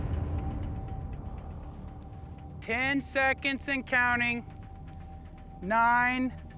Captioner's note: ticking sound